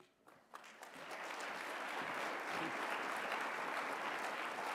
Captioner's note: applause